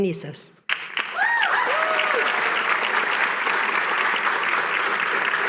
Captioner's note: cheering